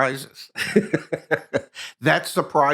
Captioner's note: laughing